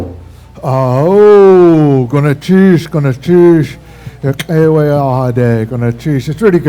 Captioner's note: speaking Tlingit